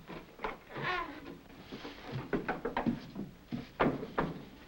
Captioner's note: door creaks